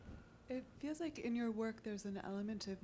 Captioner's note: woman's Voice